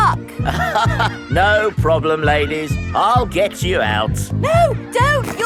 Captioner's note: chuckles